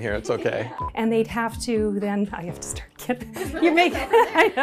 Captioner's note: laughter